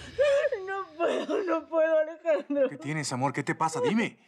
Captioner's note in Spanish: Sollozos